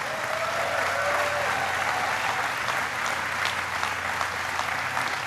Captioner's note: applause